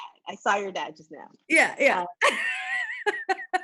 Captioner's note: laughs